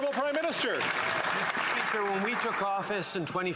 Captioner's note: some Applause